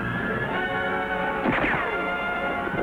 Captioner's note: gun fires; thrilling music